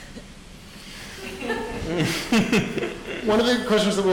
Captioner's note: audience laughing